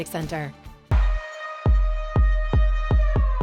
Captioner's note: siren